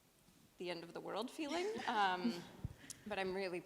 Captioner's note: laughs